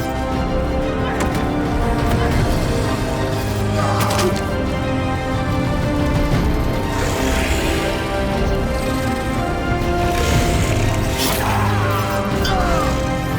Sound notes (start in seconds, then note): 6.7 growling; 11.0 groaning